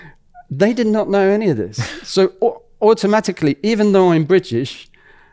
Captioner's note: laughs